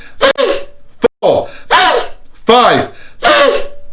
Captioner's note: deep breaths; deep breaths